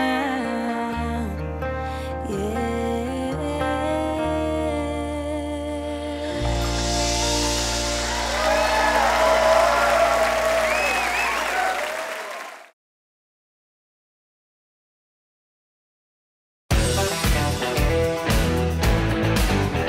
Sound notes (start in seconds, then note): 7.5 audience applauds; 9.6 audience cheers